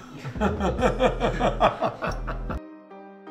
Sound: laughs

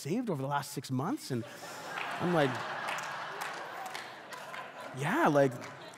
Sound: congregation laughing

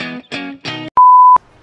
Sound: beep

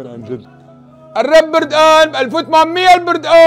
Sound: continues shouting

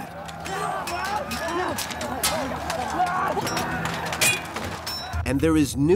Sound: soldiers yelling; weapons clanking

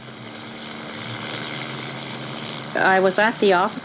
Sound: helicopter blades chopping

